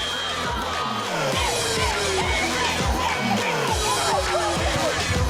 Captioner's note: chanting